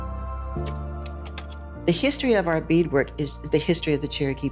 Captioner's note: slide projector clicks